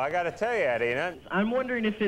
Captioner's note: host chattering